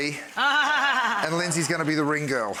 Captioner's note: Rachael laughing